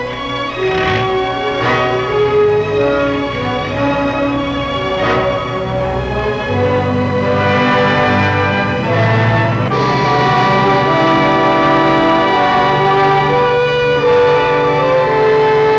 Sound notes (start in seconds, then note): 1.0 car engine revving; 6.6 gentle music